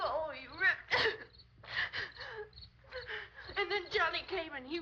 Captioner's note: gasping